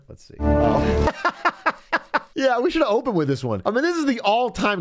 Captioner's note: laughs